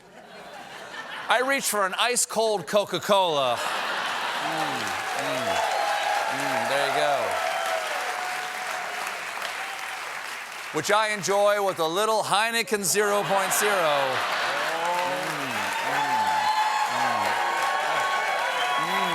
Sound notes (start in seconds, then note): 13.2 applause